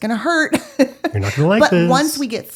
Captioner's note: laughing